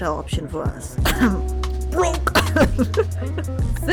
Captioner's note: embarrassed cough